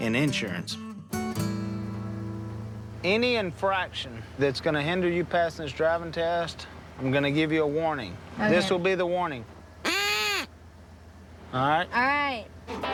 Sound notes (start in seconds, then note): 9.8 blows duck call